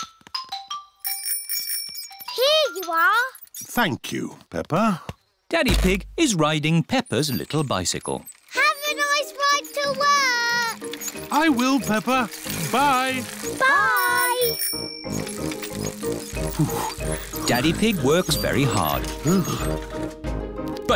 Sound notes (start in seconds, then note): 0.6 bell rings; 14.1 bell rings; 16.1 panting